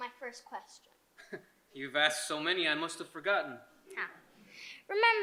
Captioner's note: chuckles